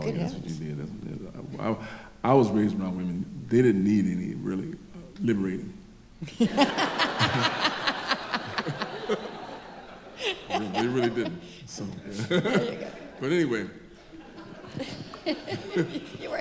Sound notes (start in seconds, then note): 6.5 laughs; 7.7 audience laughing; 12.3 chuckles; 13.9 laughs